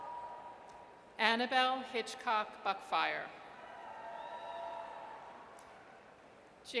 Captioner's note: audience cheers; audience cheers